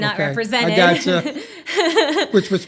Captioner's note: laughter